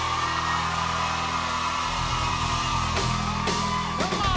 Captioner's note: cheers and applause